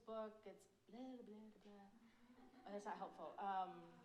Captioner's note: audience laughs